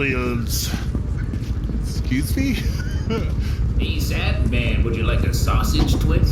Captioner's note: laugh